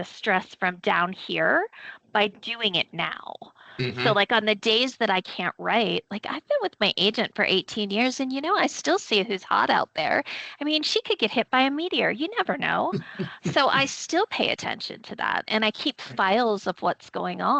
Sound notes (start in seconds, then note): 12.9 chuckling